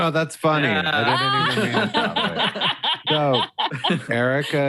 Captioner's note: all laugh